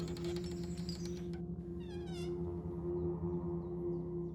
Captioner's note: door creaks softly